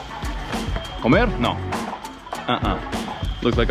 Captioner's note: speaking in foreign language